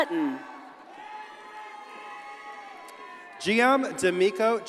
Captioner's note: audience cheers and applauds